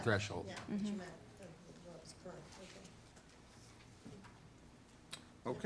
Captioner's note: member speaking off microphone